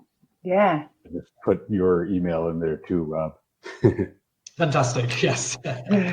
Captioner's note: laughs